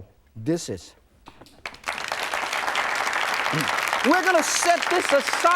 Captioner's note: audience claps